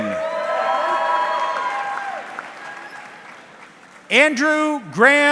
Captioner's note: audience cheering